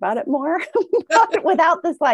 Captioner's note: laughs